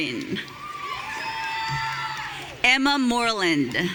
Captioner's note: audience cheering